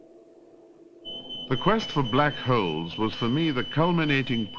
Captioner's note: beeping